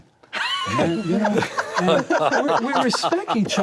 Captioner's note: all laugh